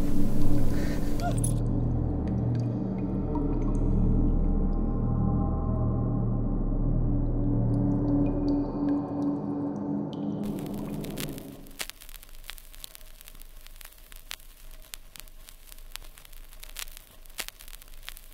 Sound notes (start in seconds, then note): 10.4 static